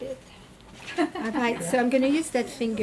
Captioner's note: volunteer laughing